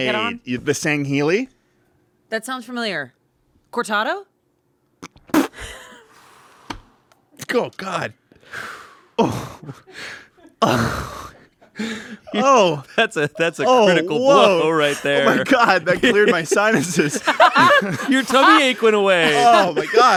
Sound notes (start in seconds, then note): 5.1 everyone laughs; 9.1 everyone laughs; 17.3 everyone laughs